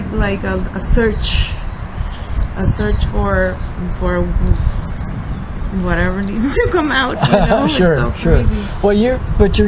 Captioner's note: laughs